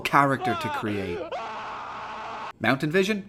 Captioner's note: fans and writers scream in anguish